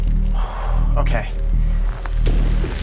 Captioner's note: exhaling